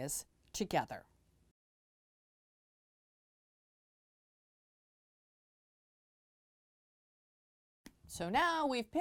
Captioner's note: no Sound Present